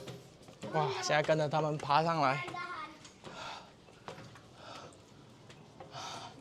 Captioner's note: exhale